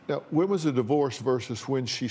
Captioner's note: none